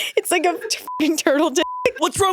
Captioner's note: all laughing; beeps